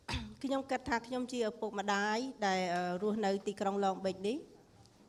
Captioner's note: speaking foreign language